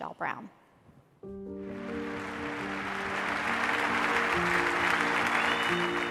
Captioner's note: applause